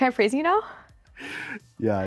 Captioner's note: chuckles